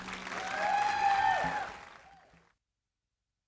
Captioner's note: applause